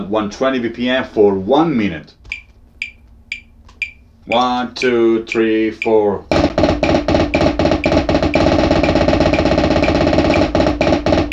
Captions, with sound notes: At 120 BPM for one minute. (metronome ticking) One, two, three, four. (drum beating) (metronome continues ticking)